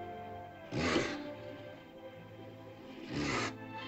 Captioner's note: sentimental music; dinosaur snorts; romantic music